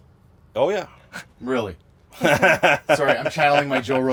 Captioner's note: laughs